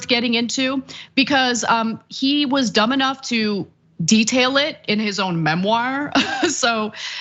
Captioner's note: laugh